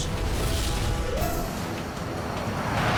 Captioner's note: jet engine noise